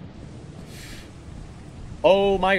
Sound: sharp inhale

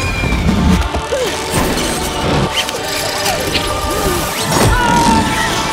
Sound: rockets whistling; ropes and pulleys moving; yelling

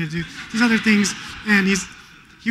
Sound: laughter

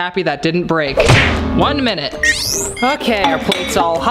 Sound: slamming

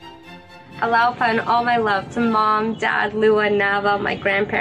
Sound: non-english speech

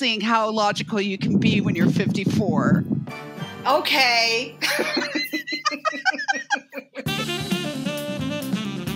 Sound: triumphant musical note; laughter

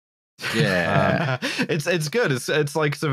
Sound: laughs

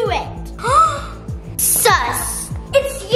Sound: gasps dramatically

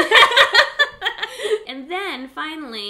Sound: laughing

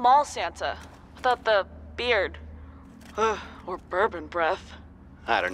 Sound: shudders

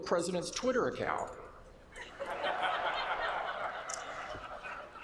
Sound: laughter

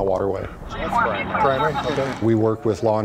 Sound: radio crackling

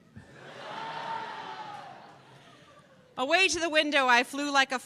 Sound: laughter

